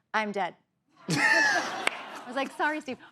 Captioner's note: laughter